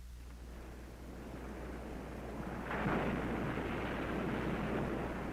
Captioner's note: ocean waves crashing